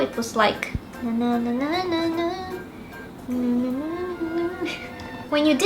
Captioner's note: humming shamelessly